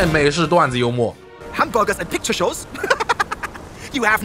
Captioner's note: laughs